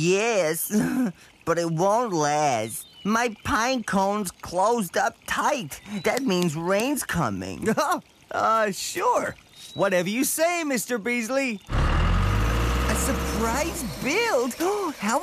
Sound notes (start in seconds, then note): 7.8 chuckles